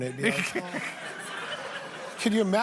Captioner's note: laughter